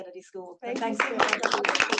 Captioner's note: attendees applauding